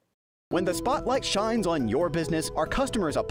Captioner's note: voice-over